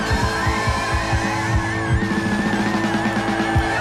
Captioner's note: audience cheering